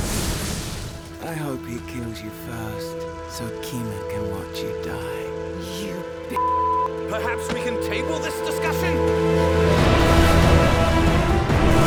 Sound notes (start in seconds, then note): 0.0 dragon growling; 0.2 dramatic music; 6.4 beep; 8.9 dramatic music